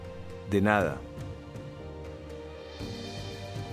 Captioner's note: in foreign language; bright music